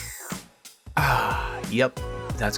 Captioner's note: satisfying slurping noises